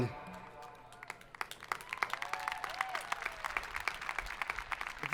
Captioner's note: audience applauding